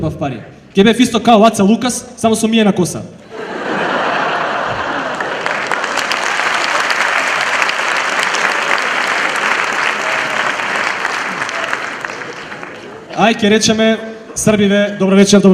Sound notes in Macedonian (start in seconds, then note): 6.0 аплауз; 11.3 аплауз